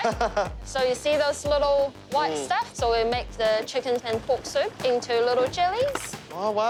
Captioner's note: laughs